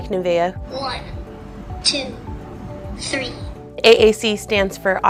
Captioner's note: AAC Voice